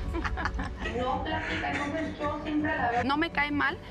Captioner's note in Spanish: ambos ríen; todas ríen